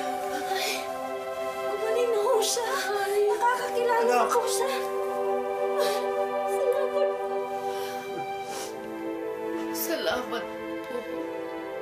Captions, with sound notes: Oh. He's cured. -He remembers me now. -Son. [crying] Thank you. Thank you.